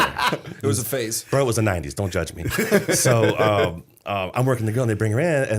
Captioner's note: laughter